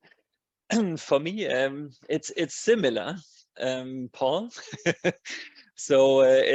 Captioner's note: laughs